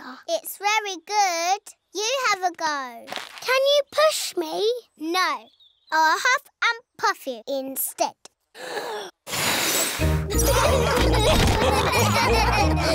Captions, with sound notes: It's very good. You have a go. -Can you push me? -No. I'll huff and puff you instead. (BLOWS) (LAUGHTER)